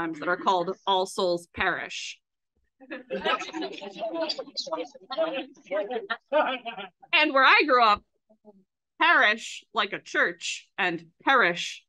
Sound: laughs with audience

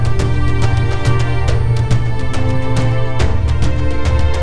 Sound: none

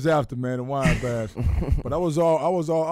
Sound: laughing

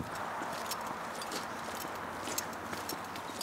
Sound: metal clinking

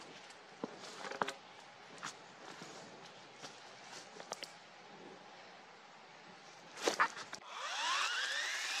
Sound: foosteps in leaves; chainsaw running

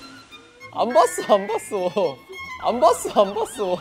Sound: upset

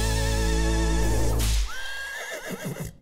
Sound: horse neighs

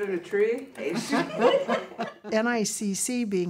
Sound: laughing

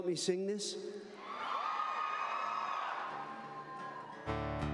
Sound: cheers; guitar strumming

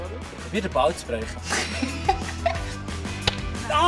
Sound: laughs

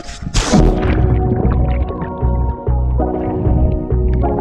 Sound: water splashing

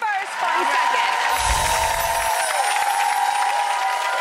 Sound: applause

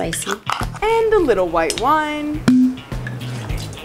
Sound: pop

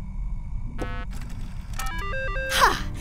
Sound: boop

